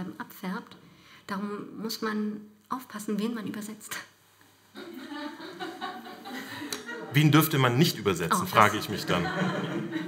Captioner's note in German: Lachen im Publikum